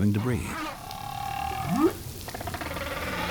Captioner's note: trilling, whooping